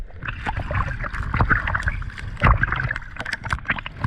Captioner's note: waves lapping